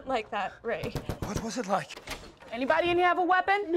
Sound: loud knocking

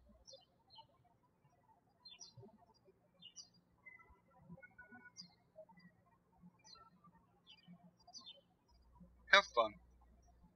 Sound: birds chirping

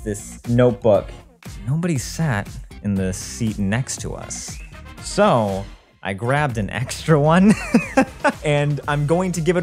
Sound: laughs

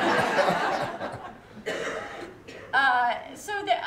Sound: laughter

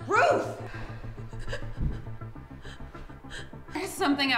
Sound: Ruth gasping

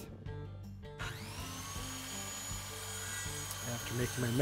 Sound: machine buzzing

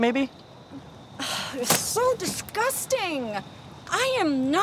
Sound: sighing

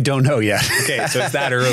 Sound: laughs

